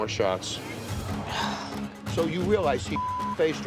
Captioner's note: sighing; beep